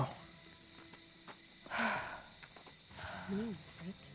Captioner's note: sighs